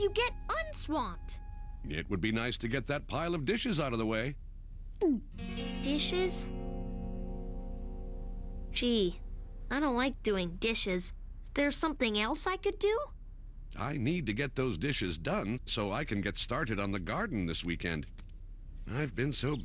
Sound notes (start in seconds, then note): 5.5 gulp